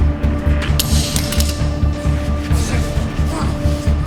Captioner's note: both grunting; suspenseful orchestral music; knife clattering; both grunting